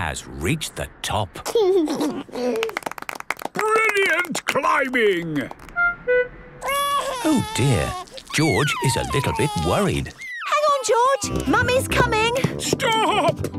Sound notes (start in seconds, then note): 1.7 George giggles; 2.5 clapping; 6.6 crying